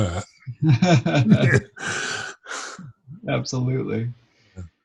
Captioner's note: laughs